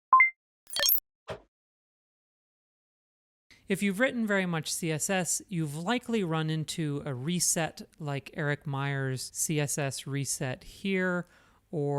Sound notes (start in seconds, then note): 0.7 digital beeps